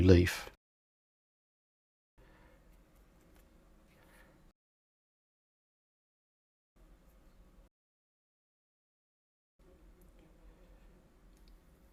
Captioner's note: silence